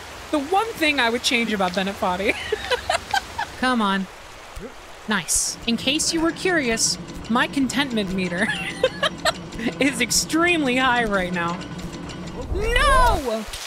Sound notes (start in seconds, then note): 2.2 laughter; 8.4 laughter